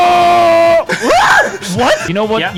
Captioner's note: fundy little girl scream